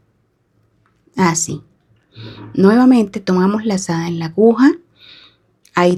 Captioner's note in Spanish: resoplido